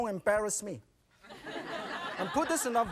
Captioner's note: audience laughing